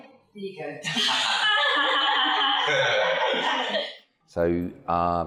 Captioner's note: laughing